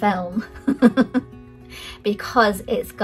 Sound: laughs

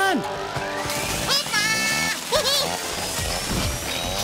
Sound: chainsaws buzzing; Bongalalas chirping

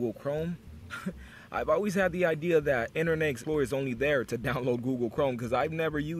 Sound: chuckle

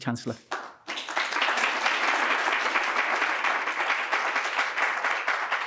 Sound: congregation clapping

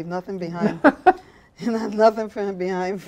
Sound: laughing

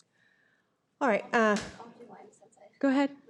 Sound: unmiced voice talking

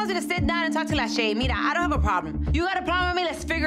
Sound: speaks in foreign language

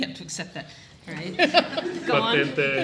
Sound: all laughing

